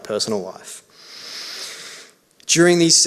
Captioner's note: inhales deeply